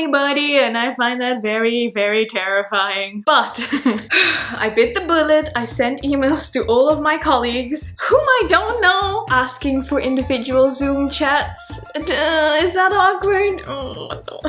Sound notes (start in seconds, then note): 3.6 laughing; 4.0 sighing